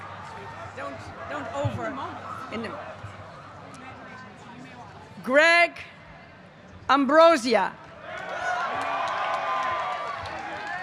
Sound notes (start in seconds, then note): 1.9 chatter